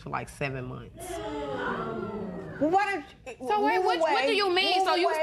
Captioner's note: spectators gasp